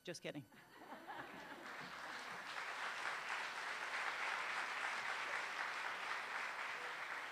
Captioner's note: laughter, applause